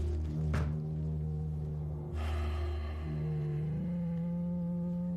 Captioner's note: breathing hissing through mask